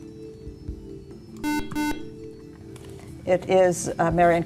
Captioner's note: beeping